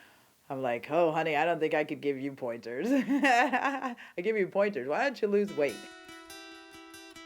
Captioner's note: laughs